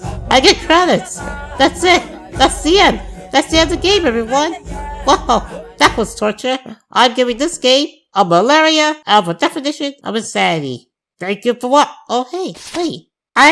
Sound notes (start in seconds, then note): none